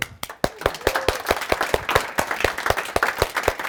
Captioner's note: clapping